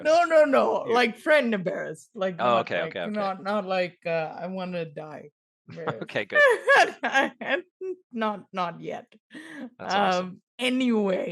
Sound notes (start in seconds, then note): 5.8 laughs